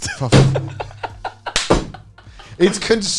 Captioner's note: laughing